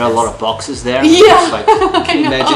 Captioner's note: laughing